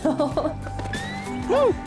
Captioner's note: laughs; hoots; laughs nervously